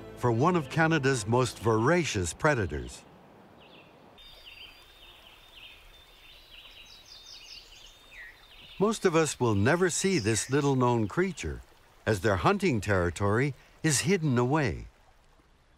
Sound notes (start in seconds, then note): 5.0 buzz and song of many birds and insects calling